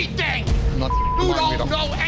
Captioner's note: beep